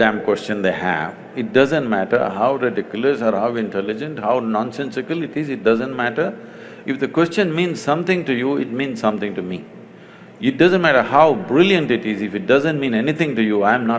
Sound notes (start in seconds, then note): none